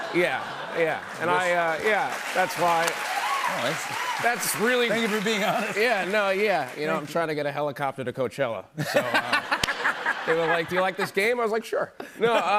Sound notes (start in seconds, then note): 2.9 cheers and applause; 8.8 laughter